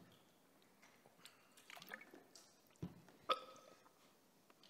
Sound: Nick burps

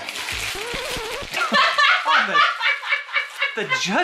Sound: laughing

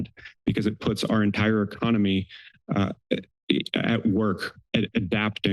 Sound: stammers

